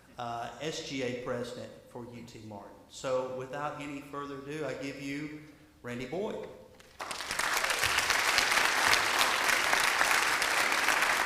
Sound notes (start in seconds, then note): 6.8 audience applauding